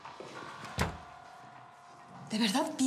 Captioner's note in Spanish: sonido al cerrar la puerta